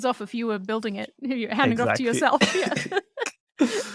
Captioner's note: laughs